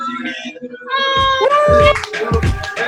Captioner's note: whoops